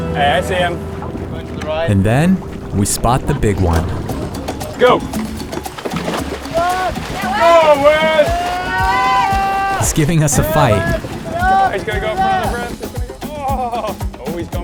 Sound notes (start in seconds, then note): 6.3 splashing; 11.6 chattering